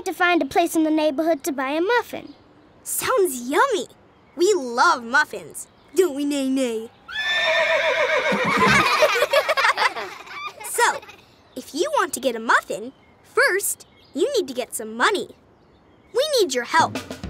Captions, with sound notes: in the neighborhood to buy a muffin. Sounds yummy. We love muffins, don't we Neigh neigh? [horse neighing] [laughing] So, if you want to get a muffin, first need to get some money. We need your help.